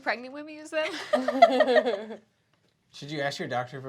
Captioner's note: laughing